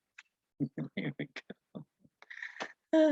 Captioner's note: laughing